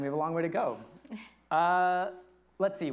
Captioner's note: lightly chuckles